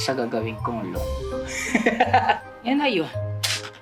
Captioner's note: laughs